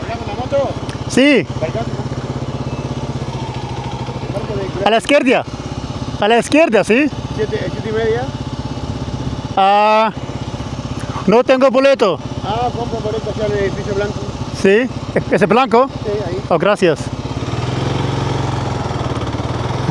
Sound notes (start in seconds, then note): 0.2 speaking Spanish; 4.6 speaking Spanish; 11.3 speaking Spanish